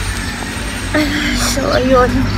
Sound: ugh

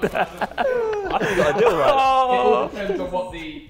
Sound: Sidemen laughing

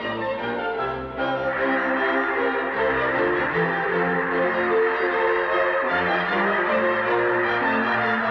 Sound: geese sounds

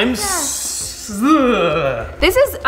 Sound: dad groaning

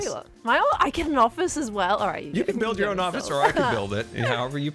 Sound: bashful mumbling

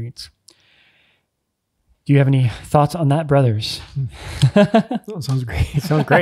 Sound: laughs

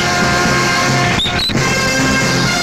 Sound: brakes squeal

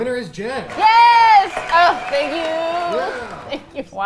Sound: crowd cheering; laughs

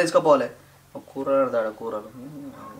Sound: whispers

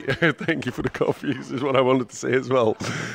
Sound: laughs

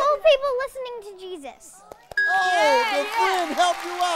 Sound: cheering

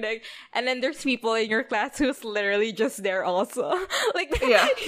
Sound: laughs

